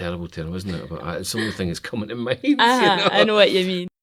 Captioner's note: laughs